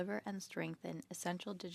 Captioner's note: speaking French